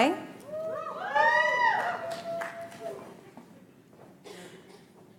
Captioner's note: audience applauds